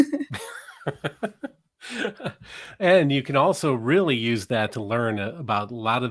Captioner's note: laughing; laughs